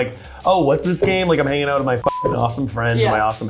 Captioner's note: beep